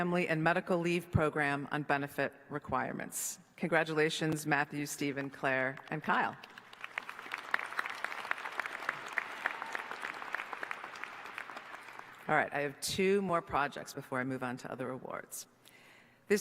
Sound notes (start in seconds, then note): 9.1 applause